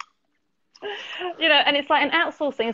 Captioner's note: laughs